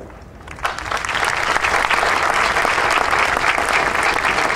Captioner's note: audience applauding